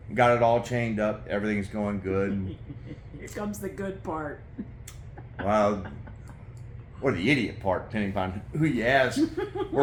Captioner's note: laugh